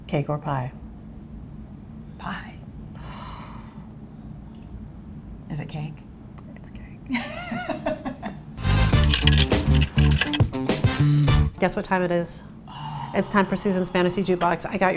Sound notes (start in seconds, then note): 3.3 sighs; 7.9 laughs